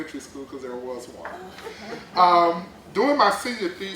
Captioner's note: laughter